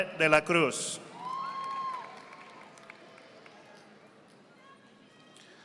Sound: audience applauding

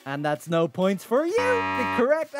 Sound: buzzer beeps

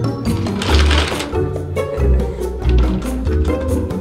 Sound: toy train rattling; jaunty music

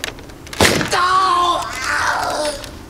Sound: gunshot and screaming

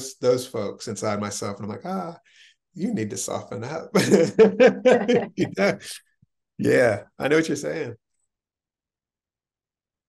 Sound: chuckles

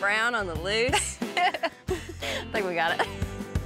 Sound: laughs

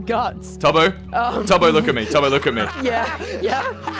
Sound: laughs

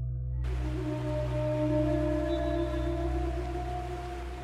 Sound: water flowing

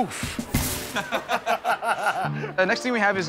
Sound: laughter

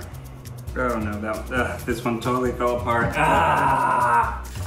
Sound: groans

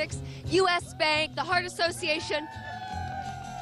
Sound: cheering

